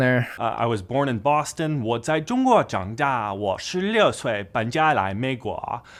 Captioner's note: speaking in foreign language